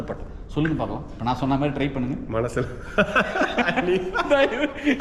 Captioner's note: laughs